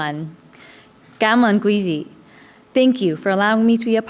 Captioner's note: foreign language